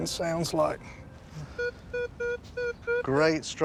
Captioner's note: beeping